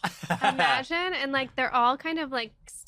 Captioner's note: laughing